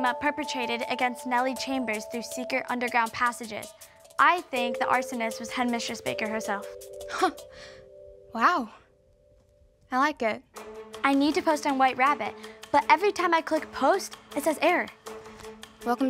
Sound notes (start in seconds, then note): 7.4 chuckles